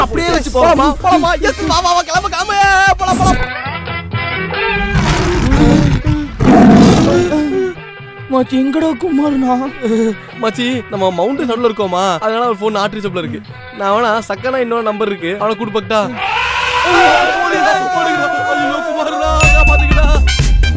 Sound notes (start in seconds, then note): 4.8 lion sound; 6.3 tiger sound; 16.1 elephant sound